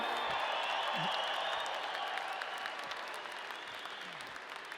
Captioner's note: audience applauding